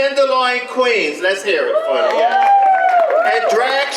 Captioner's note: audience applause